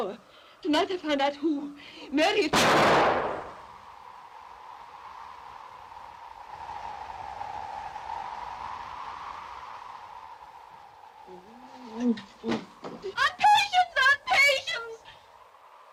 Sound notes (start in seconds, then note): 2.5 gun fires; 4.2 wind blows; 11.2 Patience moans; 12.4 thump